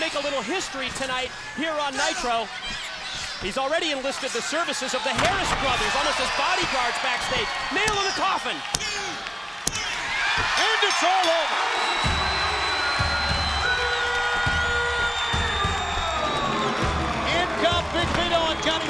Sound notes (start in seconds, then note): 10.4 bell rings